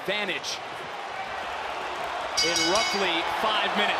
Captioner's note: bell rings